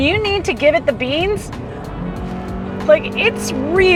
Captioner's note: engine revving